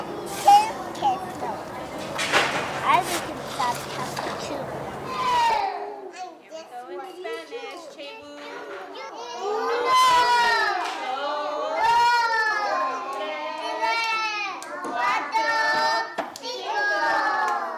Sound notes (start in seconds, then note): 8.9 teacher and children count in spanish